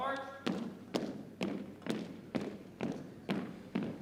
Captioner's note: boots thumping